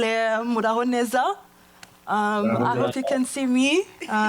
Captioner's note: speaking foreign language